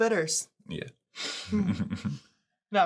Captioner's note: laughing